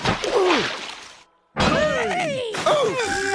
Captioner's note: crashing; splashing; screaming